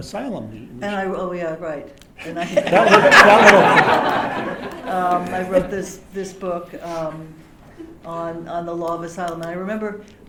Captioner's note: laughter